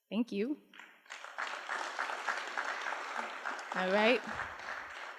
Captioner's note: applause